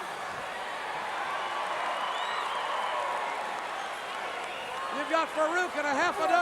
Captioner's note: audience cheering